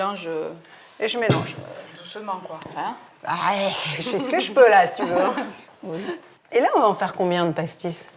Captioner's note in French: rires